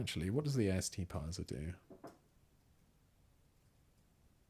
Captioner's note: silence